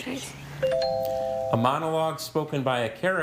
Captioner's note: tone chimes